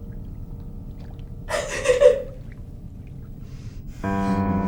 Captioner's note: Ira sobs and cries; ominous piano